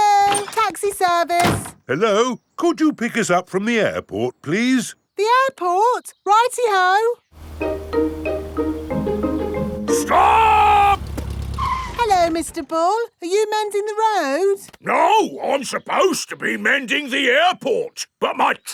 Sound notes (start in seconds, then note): 10.0 brakes squeal